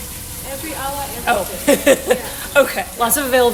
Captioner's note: laughs